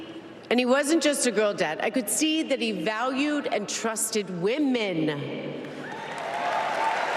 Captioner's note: applause